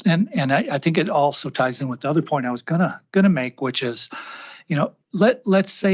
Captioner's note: sighs and gasps